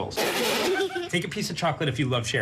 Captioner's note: laugh